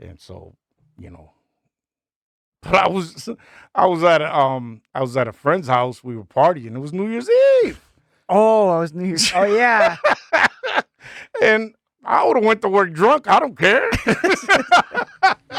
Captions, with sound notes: And so, you know, I was, I was at, I was at a friend's house, we were partying. It was New Year's Eve. Oh, I was New Year's Eve. Oh yeah. (laughing) And I would've went to work drunk, I don't care. (laughing)